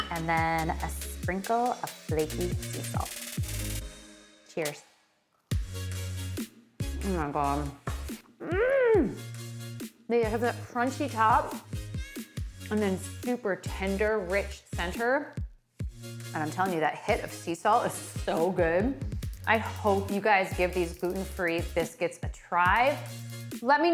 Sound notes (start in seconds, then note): 6.9 upbeat music; 8.4 grunts